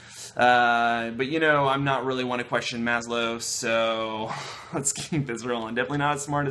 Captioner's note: laughter